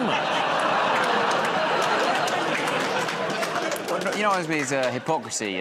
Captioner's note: laughter, groaning